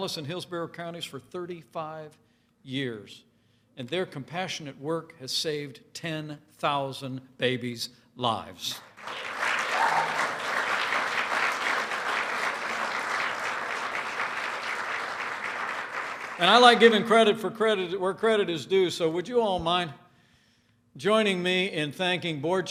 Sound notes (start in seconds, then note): 12.1 applause